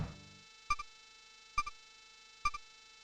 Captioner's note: silence